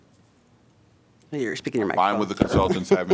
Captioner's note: laughter